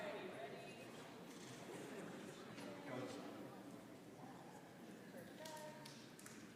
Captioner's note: applause